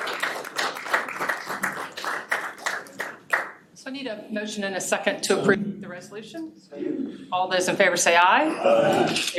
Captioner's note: applause